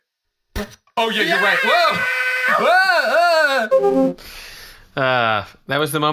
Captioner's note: screaming